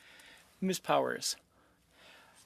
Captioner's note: speaking French